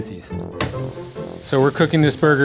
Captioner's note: burger sizzling